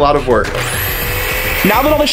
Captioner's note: saw buzzing